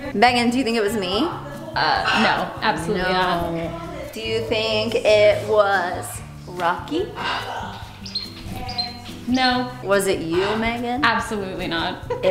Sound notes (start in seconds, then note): 7.0 bird tweeting